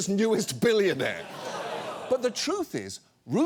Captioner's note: studio audience groans